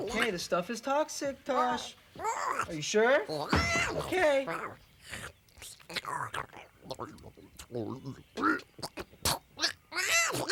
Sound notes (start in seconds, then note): 2.2 Tasha babbles impatiently; 3.5 Tasha stomps foot; 6.8 Tasha slurps and swallows; 9.0 Tasha retches